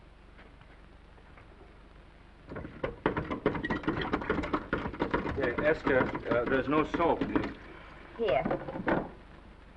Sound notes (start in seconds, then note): 2.6 handle rattling